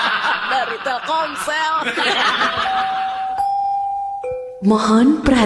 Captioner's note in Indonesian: tertawa